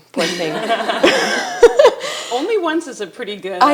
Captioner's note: attendees laughing